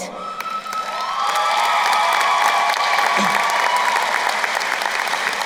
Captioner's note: crowd cheering and applauding